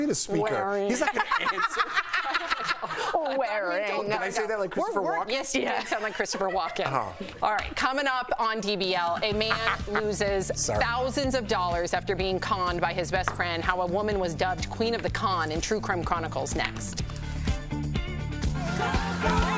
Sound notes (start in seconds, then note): 5.5 laughter